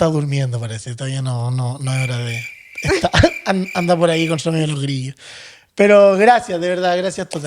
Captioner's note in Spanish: risas